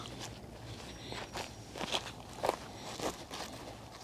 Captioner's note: grass crunching